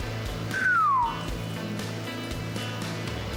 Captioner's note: whistles, pitch lowering